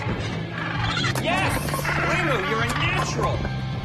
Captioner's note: LiMu squawks